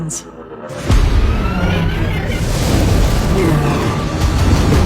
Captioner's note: snarls; epic music playing